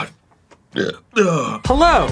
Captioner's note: unfortunate sounding belch